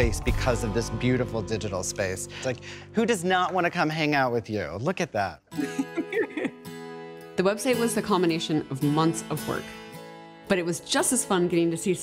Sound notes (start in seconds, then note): 5.6 laughing